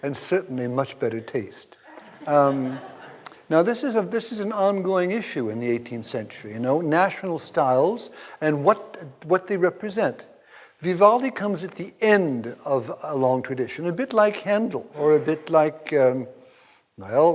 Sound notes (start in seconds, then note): 1.8 audience laughs